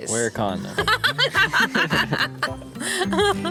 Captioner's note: laughter